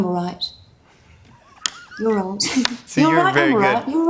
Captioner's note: laughs